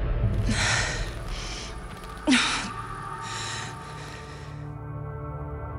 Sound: heavy breathing

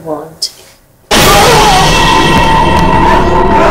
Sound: screams

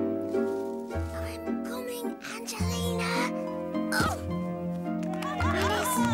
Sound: whispering

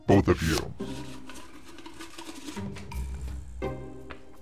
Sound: paper whooshing; paper rustling; paper flapping; paper rustling

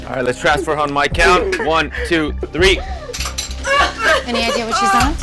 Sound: groans

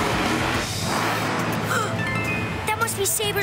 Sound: gasps; mysterious music plays

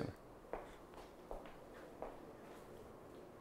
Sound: feet clunking

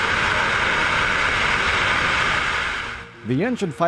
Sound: engine fire

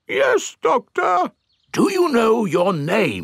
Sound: in teddy's voice; in normal voice

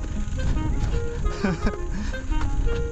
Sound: laughing

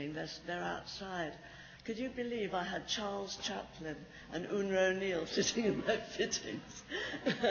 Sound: laughs

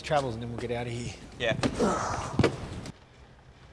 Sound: sighs

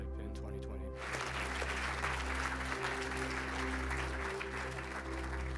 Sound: audience clapping

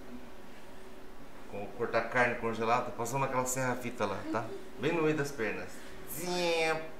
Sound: laughs

